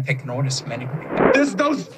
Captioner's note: woosh sound to next quote